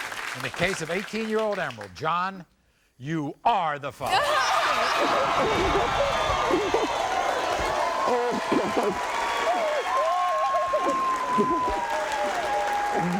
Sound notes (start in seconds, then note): 4.1 audience and guests cheer; 6.4 crying